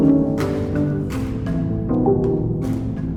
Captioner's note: chiming